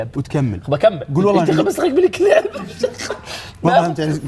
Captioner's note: laughs